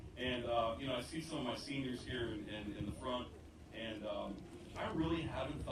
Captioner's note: none